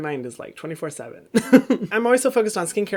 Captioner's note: laughs